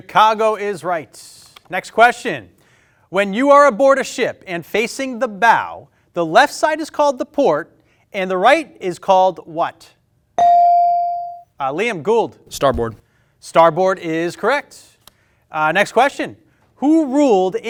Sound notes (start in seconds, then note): 10.4 bell ring